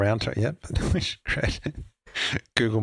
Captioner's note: laughs